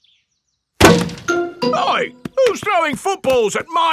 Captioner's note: thuds